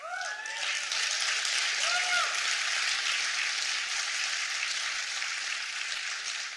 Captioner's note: applause